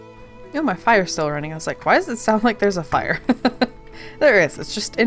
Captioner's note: laughs